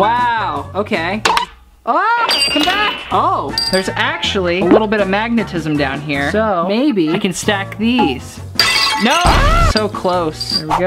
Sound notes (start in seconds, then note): 3.4 clinking; 8.6 smashing